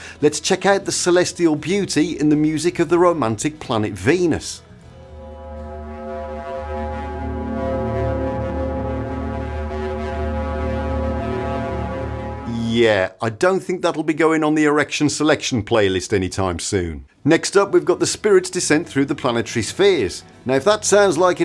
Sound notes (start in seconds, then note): 4.9 ominous sound